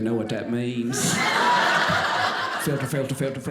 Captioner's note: audience laughing